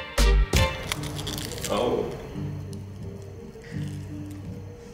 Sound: lettuce crunching

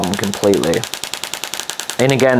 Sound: machine tapping

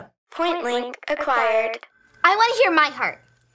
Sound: automated Voice

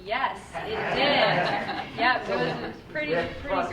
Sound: all laughing

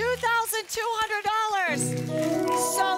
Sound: audience applause

